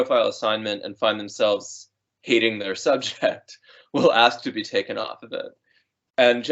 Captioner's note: laughing